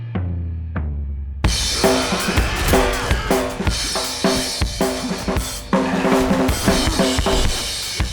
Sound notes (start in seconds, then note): 1.4 drums intensify; 4.0 muffled cries